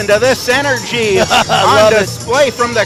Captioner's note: laughing